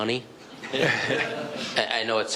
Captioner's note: all laughing